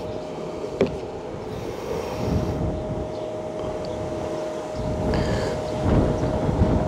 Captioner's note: wind blowing